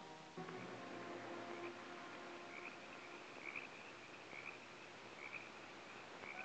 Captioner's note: frogs croaking; insects chirping